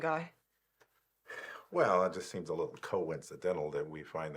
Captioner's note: sighs